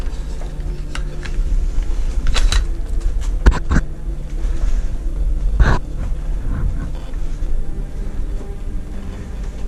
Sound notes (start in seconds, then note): 1.0 grunting; 1.0 scraping and banging